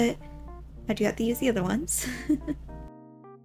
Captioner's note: giggles